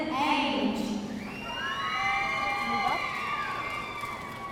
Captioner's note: audience cheering